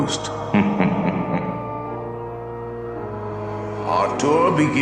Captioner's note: ghost laughs